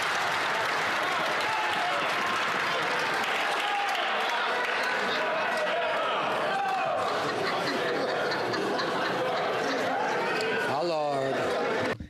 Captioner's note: some Applause